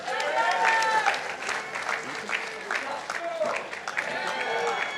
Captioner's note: participants applauding